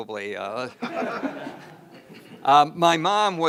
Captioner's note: attendees laugh; laughs